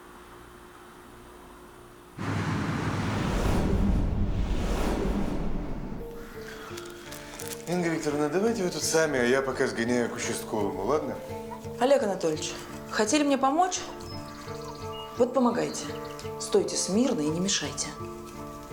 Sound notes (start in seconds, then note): 2.2 street noises